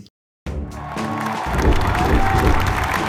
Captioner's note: cheers